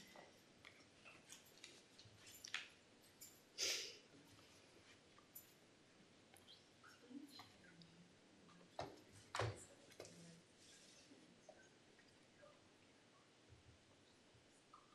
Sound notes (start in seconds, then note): 6.6 talking quietly offscreen